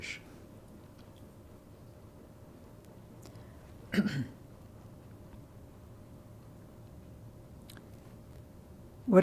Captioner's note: pauses 8 seconds